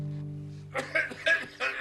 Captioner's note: coughing